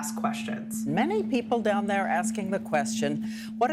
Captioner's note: soundbite of archived recording